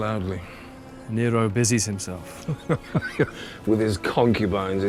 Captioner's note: laughs